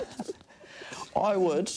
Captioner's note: they laugh